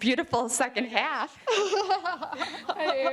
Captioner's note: laughing